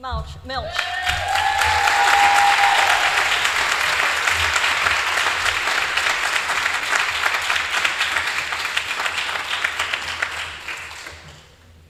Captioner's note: applause